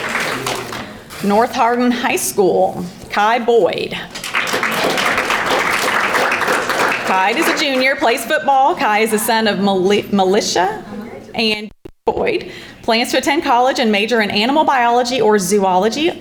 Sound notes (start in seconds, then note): 4.1 audience applauding